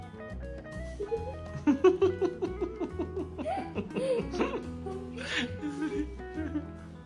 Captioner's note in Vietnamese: Tiếng cười